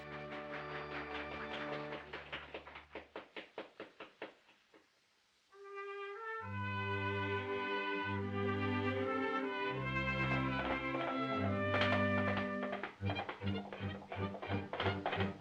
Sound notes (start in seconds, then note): 0.0 applause fades; 8.7 making hoofbeat sounds